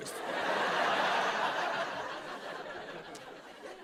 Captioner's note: laughter